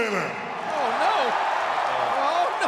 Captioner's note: audience cheering